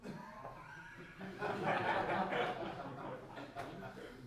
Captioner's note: crowd laughing